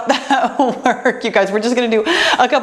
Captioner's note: laughs